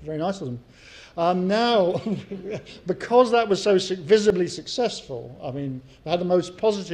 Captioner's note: laugh